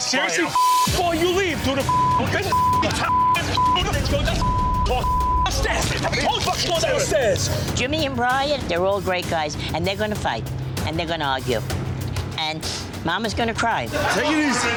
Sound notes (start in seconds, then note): 1.8 beep; 3.5 angry yelling; 3.5 continuous beeping